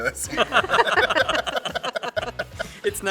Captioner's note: all laughing